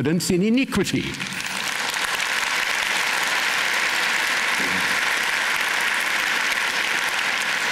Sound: applause

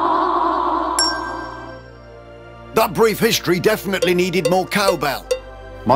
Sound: cowbell sounds

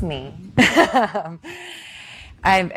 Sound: laughing

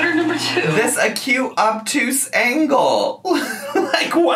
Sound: laughing

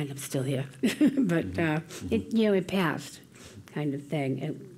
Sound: laugh

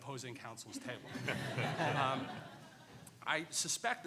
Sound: laughing

